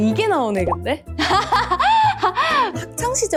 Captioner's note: laughing heartily at the youngest's antics